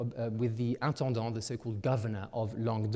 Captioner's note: speaking in French